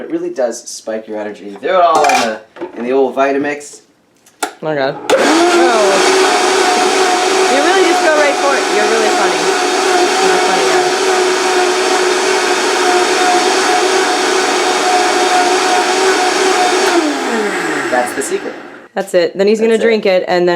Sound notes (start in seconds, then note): 3.9 clicks; 5.6 blender whirrs